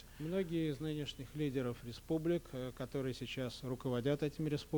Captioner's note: non-english speech